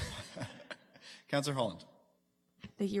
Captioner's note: laughs